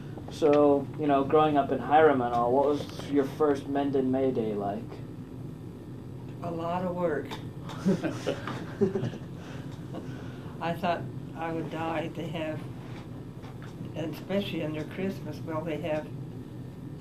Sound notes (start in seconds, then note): 7.7 chuckling